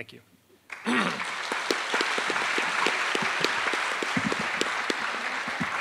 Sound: attendees applauding

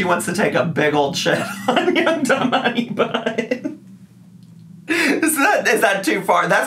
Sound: laughing

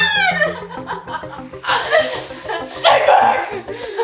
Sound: laughs

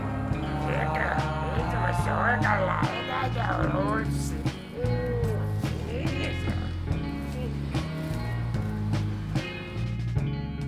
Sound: alien Language Sounds

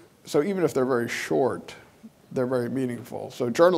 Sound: none

